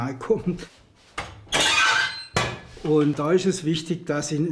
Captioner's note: creaking